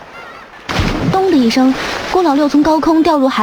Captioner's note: thud